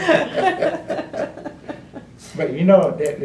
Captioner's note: laughter